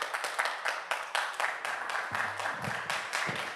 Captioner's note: audience Applauding